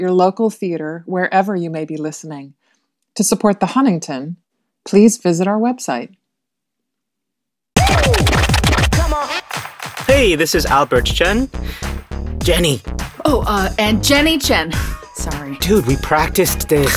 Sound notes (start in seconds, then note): 9.4 energetic music; 10.8 whispers, cueing